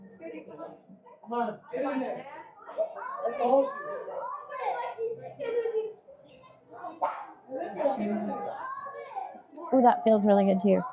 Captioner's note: people chattering